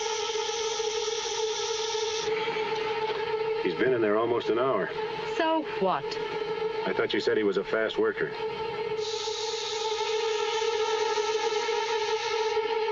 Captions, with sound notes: He's been in there almost an hour. So what? I thought you said he was a fast worker. [sizzle]